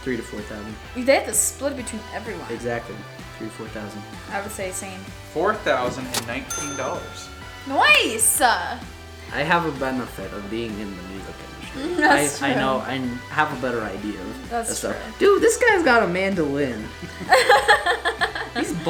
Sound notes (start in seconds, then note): 5.6 male Voice; 17.0 laughs